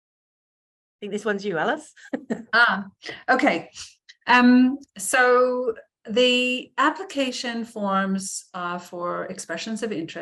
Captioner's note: laughs